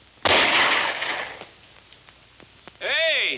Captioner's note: gun firing